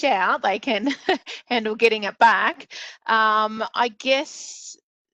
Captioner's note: laughs